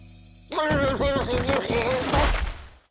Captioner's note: shouting